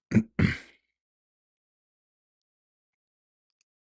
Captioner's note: clears throat